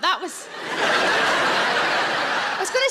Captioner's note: audience laughs